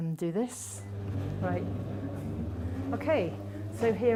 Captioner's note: treadmill humming